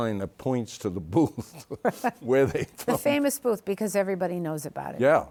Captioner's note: chuckles